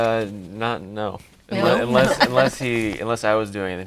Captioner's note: laughing